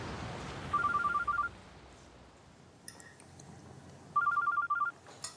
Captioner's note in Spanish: suena el celular